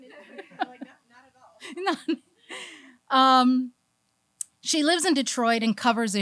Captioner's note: laughs